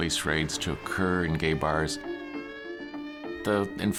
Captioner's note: police sirens